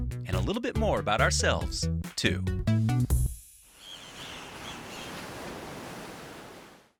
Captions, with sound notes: and a little bit more about ourselves too. (seagulls screeching and waves lapping)